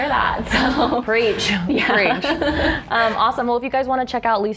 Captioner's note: laughing